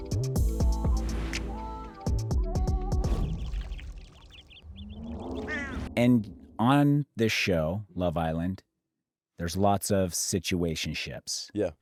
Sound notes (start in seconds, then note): 3.3 birds chirping